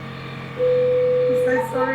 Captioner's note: laser bleeping